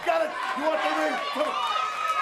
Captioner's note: crowd cheering